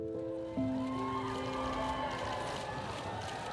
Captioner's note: crowd cheering and applauding; peaceful music